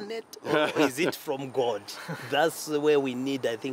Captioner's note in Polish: śmiech